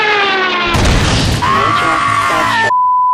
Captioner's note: bloodcurdling shriek